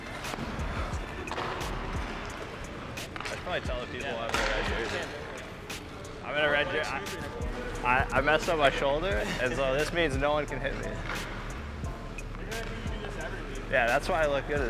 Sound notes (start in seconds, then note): 0.0 upbeat hip-hop music; 3.7 players indistinctly chatting